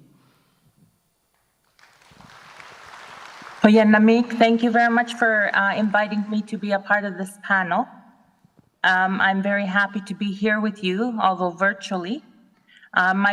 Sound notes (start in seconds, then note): 1.6 audience applauds; 4.0 speaks native language